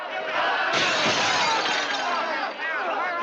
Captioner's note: glass shattering